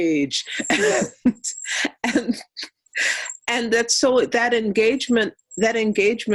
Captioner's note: laughing